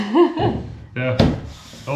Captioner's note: laughing